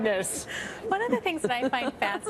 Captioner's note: laughter